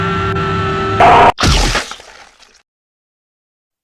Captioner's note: Munch